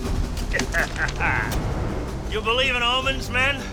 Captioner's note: laughs triumphantly